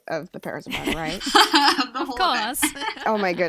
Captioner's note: chuckles